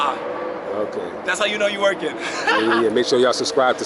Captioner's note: laughs